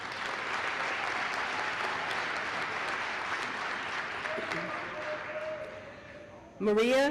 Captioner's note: applause